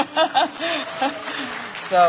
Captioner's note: applause